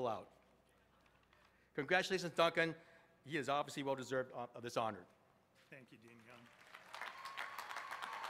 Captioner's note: applause